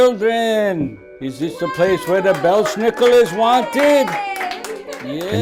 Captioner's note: applause